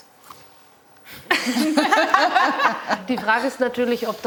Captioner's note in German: Gelächter